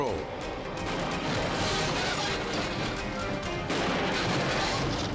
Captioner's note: cars crashing